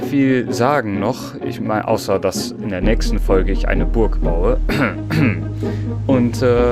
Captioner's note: cough